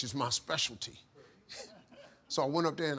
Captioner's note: Steve laughing